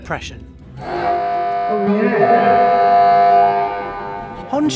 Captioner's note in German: Alarm ertönt